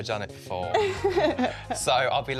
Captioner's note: laughter